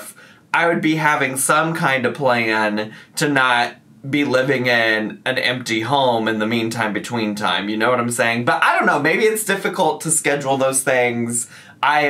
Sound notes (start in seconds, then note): none